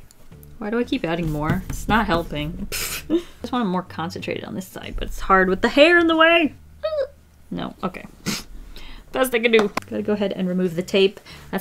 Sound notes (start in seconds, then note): 2.4 laughs